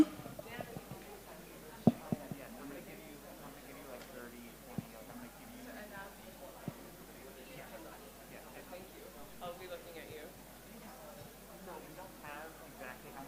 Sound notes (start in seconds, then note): 0.1 background chatter; 1.8 crowd murmurs